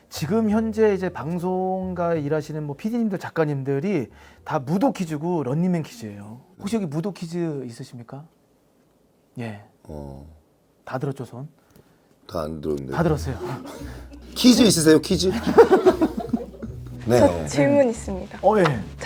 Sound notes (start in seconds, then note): 13.0 haha